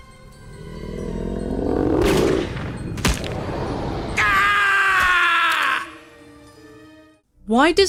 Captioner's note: scream; roaring + gunshots